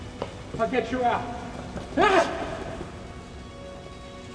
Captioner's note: yelling